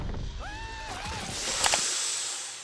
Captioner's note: elephant thuds; Cuddles screams; Cuddles yelling; pulley squelching; inhales sharply